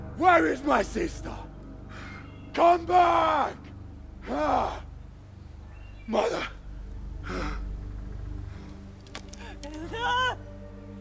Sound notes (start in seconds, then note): 4.7 birds chirping